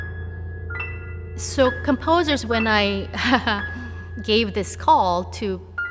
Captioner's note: chuckles